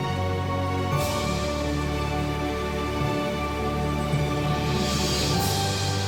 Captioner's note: waterfall sound